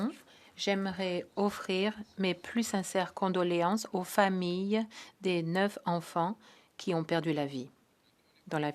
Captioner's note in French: voix de l'interprète